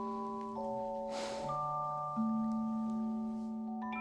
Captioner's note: sigh